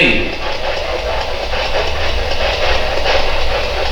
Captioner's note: pulsing static